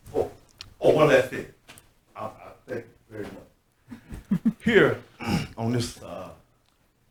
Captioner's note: speaks off microphone